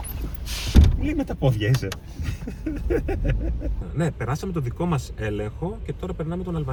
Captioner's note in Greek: γέλια